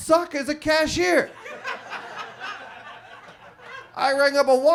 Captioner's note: audience laughs